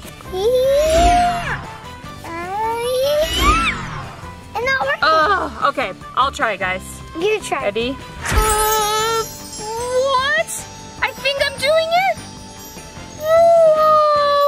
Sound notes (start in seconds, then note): 0.5 energy charging; 8.2 magical chiming